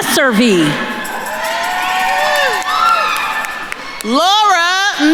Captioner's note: attendees cheering and applauding